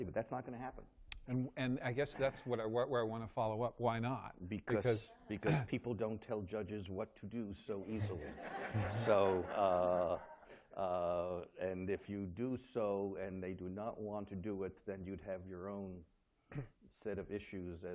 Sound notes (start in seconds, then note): 8.0 laughter